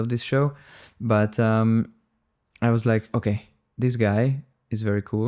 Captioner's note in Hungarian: szippant